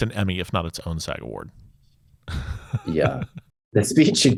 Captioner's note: laughs